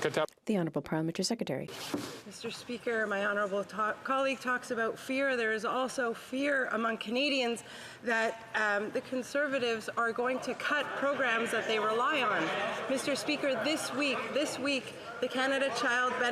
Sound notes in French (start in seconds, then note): 3.7 voix de l'interprète